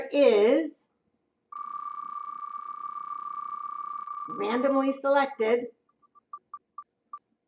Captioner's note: wheel noises